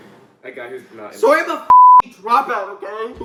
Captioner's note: beep